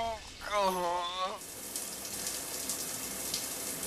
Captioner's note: shower running